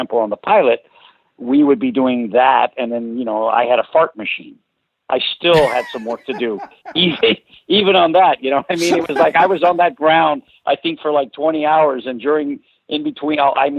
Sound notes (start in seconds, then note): 5.5 laughs; 8.7 laughs